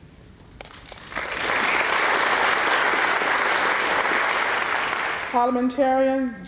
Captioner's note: applause